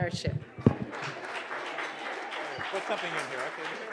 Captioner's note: applause